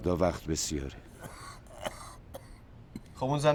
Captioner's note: coughing